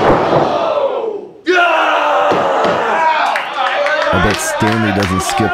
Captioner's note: audience cheering